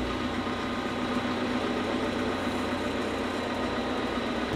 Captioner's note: engine revving